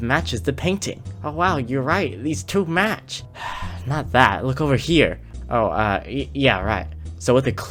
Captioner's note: sigh